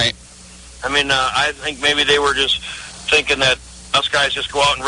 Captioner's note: laughs